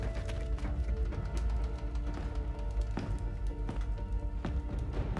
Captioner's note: footsteps tapping